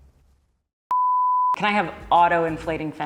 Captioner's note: test card beeps